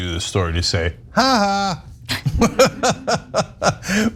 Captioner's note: laugh